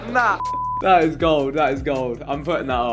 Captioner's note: beep